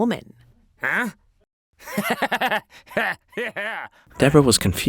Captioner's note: laughs